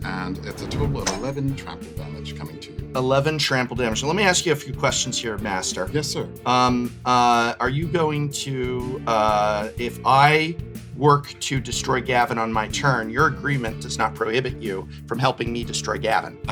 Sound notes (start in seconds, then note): none